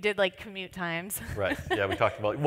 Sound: laughs

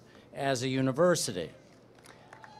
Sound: applause

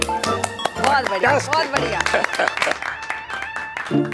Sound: applause

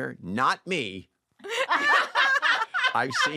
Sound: laughter

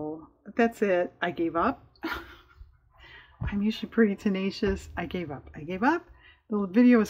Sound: laughs

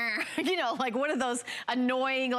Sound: laughter

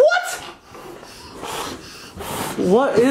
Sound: breathing

